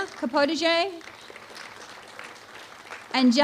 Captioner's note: applause